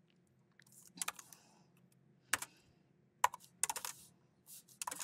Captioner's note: keyboard clacking